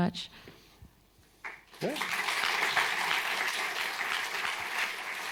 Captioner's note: applause